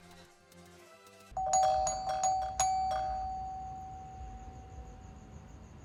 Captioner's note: soft upbeat music; doorbell ringing